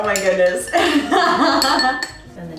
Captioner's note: laughing